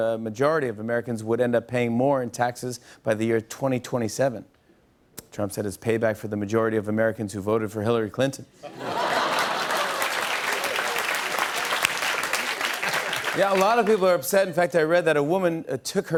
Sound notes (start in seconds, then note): 8.6 laughter; 8.8 applause